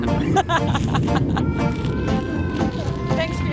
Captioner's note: laughing